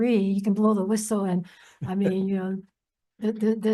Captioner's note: laughs